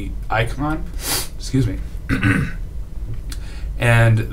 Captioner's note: sniffs